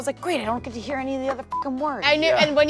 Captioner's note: beep